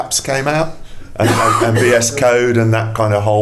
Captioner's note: coughing drowns out speaker